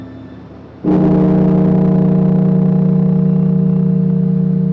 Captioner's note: bell tolling